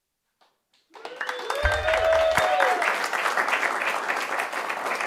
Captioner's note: audience applauds